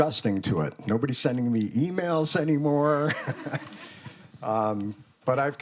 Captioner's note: chuckles